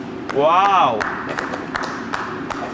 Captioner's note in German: Applaus